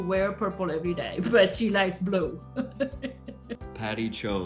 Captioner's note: laughs